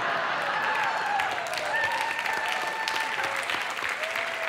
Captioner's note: audience cheering